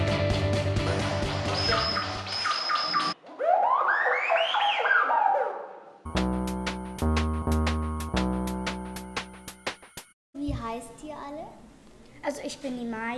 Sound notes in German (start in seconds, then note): 1.2 Wechselnde, elektronische Töne